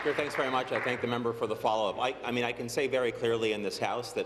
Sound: applause

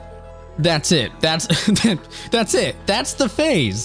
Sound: laughs

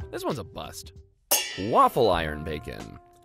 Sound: pans clanging

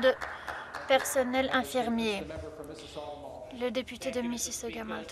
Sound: speaking french

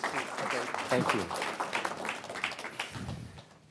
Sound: applause

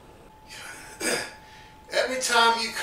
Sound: clears throat

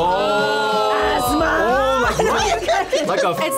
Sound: laughs

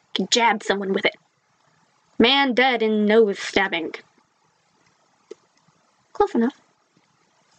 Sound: news reporter voice

